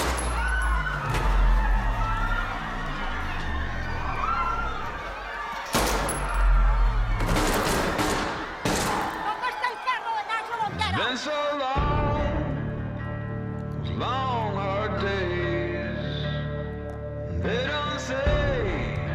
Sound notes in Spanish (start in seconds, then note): 0.1 Gritos y exclamaciones; 5.6 Disparos